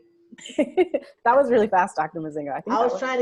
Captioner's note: laughs